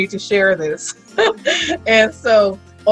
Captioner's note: laughing